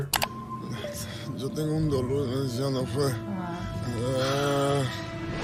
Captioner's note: speaking foreign language